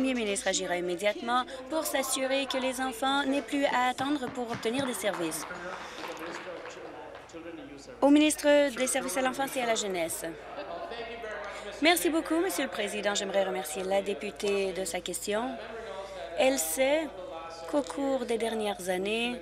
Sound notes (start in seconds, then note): 6.7 applause